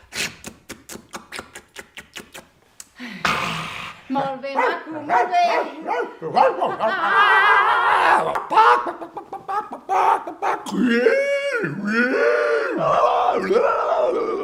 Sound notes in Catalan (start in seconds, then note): 8.3 Gallina cloquejant; 10.9 Sons d'animals